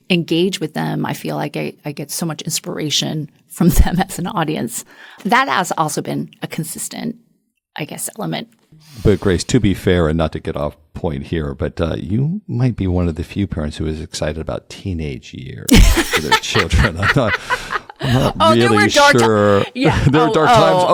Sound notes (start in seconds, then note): 15.7 laugh